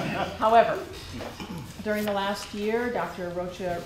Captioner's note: laughter